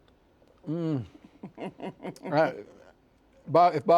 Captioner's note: laughs